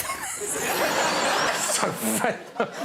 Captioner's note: laughing